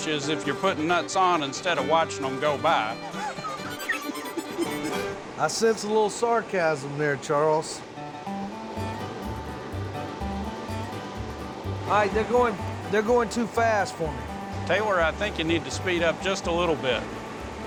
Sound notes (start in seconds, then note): 2.9 laughs; 8.0 bluegrass music